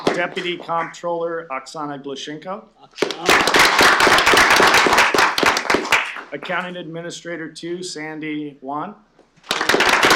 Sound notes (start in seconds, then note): 0.0 applause; 3.0 applause